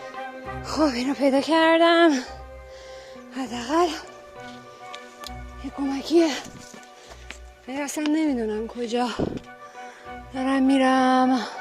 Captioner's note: gasping sound